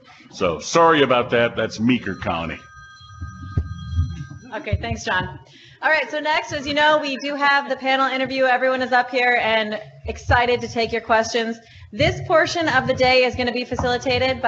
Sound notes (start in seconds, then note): 0.8 phone ringing